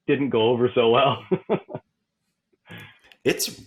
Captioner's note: laughs